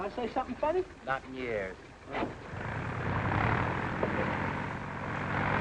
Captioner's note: motor starts